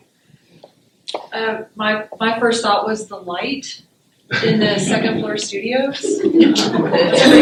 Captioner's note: laughter